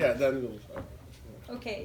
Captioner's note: mumbles